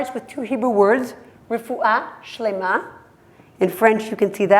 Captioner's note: hebrew